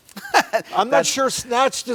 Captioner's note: laughter